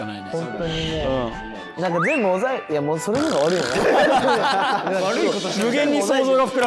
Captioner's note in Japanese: 一同：笑い